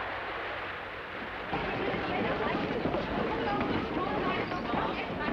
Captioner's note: people murmuring